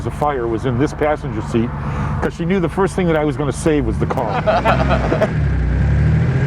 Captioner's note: laughs